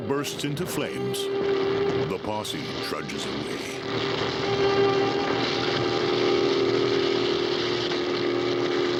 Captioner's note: dramatic music; fire crackling